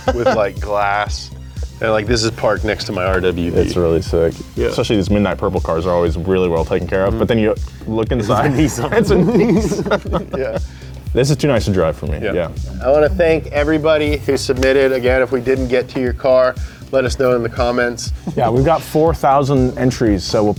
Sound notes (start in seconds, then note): 8.1 laugh